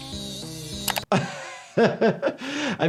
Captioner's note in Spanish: el doctor se ríe